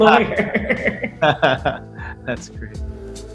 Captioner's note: both laughing